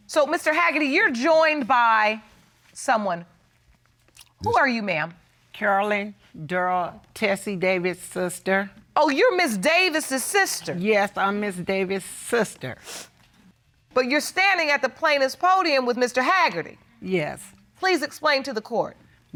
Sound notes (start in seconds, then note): 12.8 sniffles